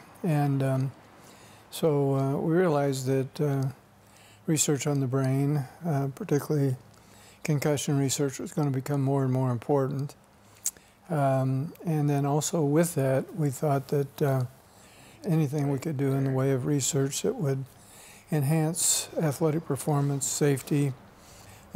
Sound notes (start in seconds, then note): none